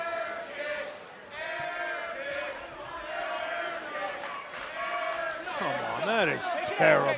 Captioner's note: fans chanting